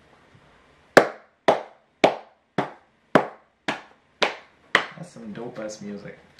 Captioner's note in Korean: 박수 x8